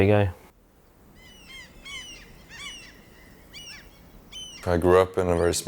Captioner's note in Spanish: graznido de aves marinas